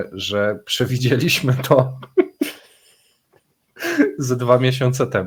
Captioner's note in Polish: śmiech